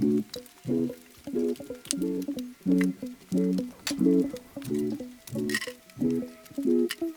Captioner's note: laughs